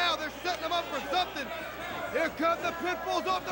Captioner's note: crowd chatter